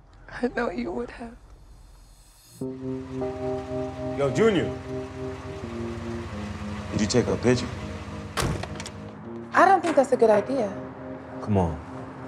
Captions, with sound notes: - I know you would have. (gentle music) - Yo, Junior. Could you take our picture? (door slams) - I don't think that's a good idea. - Come on,